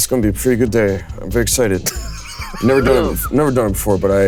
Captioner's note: Koda chuckling